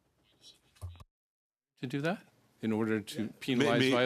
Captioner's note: speaking French